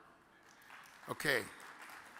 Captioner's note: audience claps